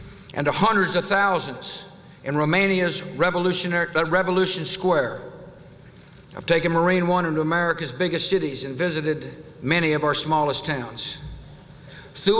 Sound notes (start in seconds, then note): none